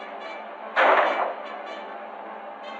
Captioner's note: gunshot